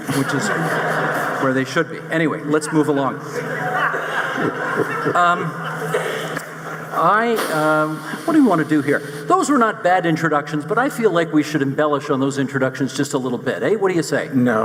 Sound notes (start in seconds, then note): 2.2 audience laughing